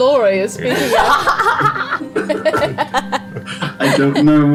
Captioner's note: all laugh